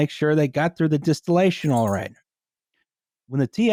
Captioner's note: small bell jingling near mic